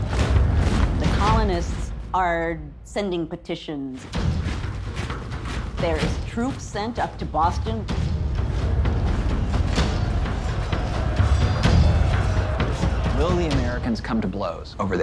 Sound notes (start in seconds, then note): 11.1 yelling